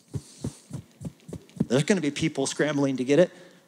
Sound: none

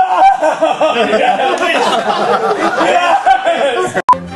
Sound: laughter

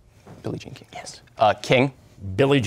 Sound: whispering

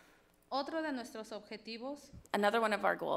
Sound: speaks foreign language

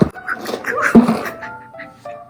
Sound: thump

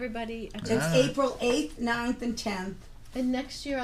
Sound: voiceover

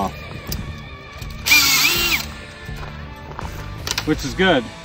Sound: drill screeching

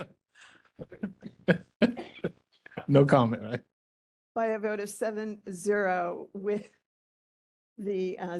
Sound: laughing

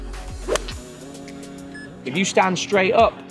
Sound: golf club whacks

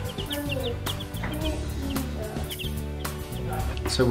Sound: birds chirp

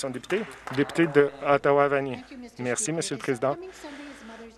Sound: some Applause

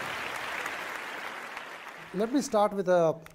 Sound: applause

